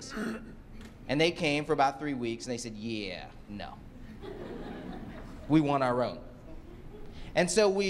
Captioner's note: laughter